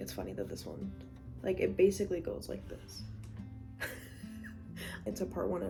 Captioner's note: laugh